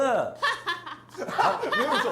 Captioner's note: laughing